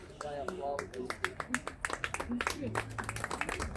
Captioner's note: applause